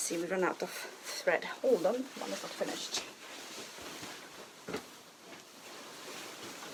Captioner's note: fabric rustling